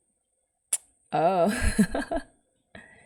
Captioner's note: laughs